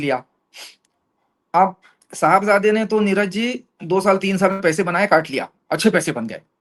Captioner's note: nasal sound